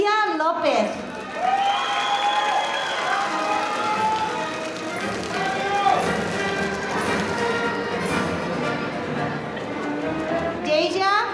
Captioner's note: applause